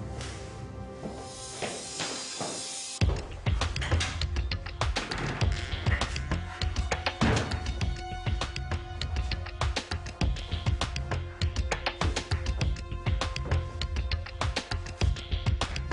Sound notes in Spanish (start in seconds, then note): 5.6 Ruido al abrir